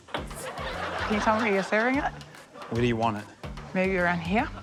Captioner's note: laughs; laughter